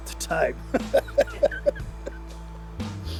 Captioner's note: laughs